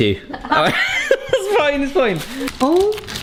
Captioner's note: loud laughter